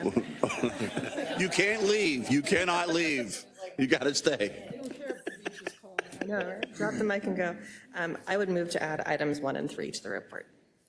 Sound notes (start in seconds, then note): 0.0 laugh; 4.7 laugh